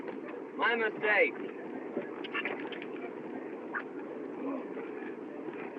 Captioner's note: tongue Clicks